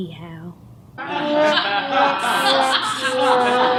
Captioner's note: laughter